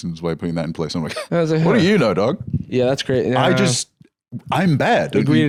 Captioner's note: scoffs